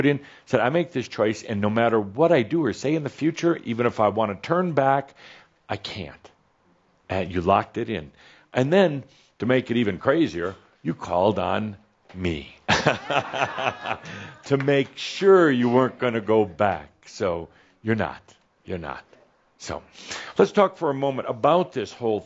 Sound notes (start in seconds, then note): 12.7 some laughter